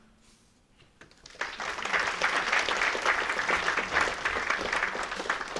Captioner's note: applause